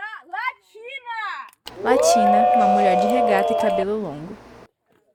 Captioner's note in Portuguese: palmas e assovios